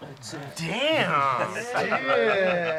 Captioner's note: joyfully